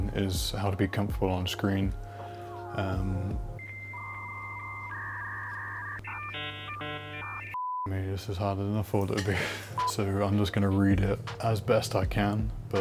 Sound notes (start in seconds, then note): 7.8 beep